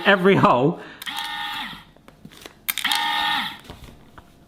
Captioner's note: machine whirring